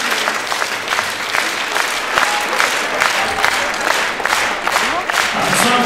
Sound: applause, shouts of "Bravo"; stormy applause

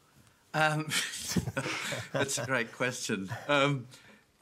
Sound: chuckles

